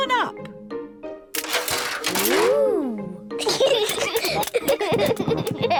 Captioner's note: giggling